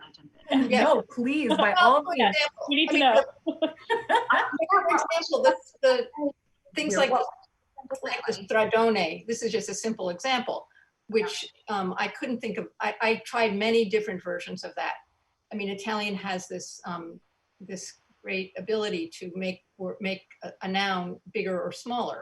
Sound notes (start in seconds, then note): 0.4 overlapping chatter; 1.3 loud laughs